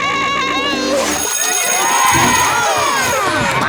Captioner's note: bell ringing, cheering